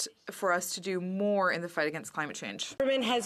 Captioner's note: speaking French